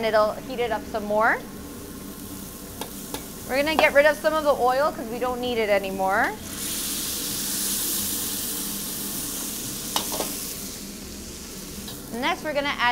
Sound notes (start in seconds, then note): 6.5 pork sizzles